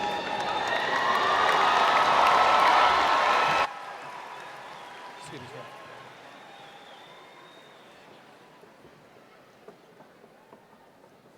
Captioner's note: applause and Cheering